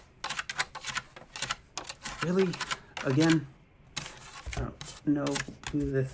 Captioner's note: scratching sound at door